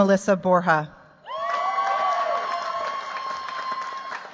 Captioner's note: cheers, applause